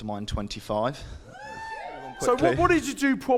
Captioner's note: audience cheers